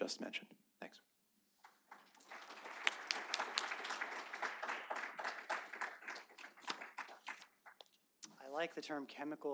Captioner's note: applause